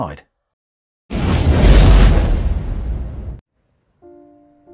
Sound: whooshing sound; serene piano music

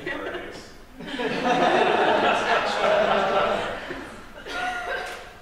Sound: laughter

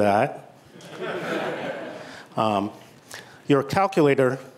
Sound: laughter

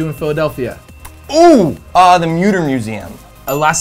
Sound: bell dings

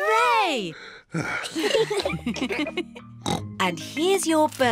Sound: sighs; all laugh; oinks

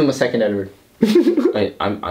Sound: giggles

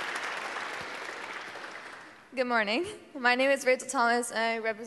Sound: applause

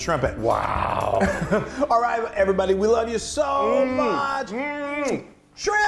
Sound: laugh

